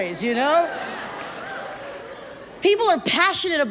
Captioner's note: audience chatters